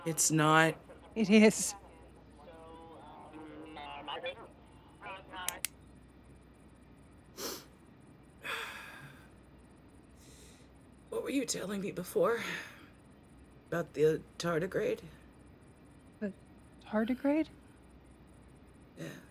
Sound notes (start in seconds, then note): 3.8 switch flipping